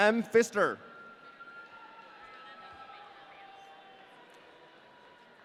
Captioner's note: audience cheering